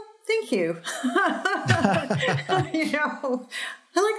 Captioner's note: laughter